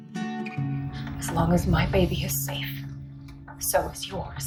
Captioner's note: voiceover